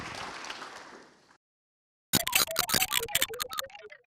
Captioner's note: clapping